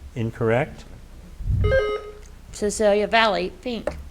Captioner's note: buzzer beeps